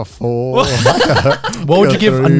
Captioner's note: laughs